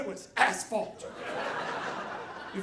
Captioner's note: audience laughing